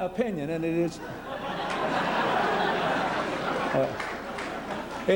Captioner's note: laughter